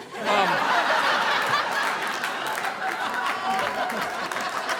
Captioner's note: audience laughing